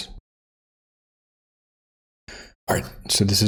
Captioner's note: silence